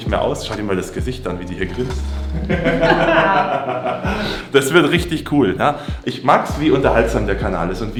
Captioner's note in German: gelächter